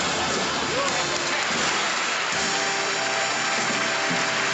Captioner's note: applause